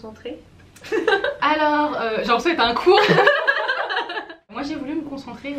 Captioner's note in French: rires